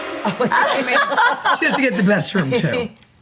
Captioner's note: group laughs